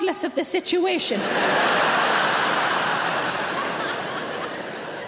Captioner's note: audience laughs